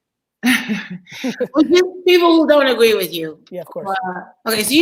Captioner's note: laughs